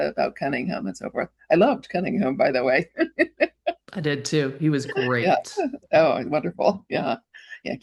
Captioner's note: chuckles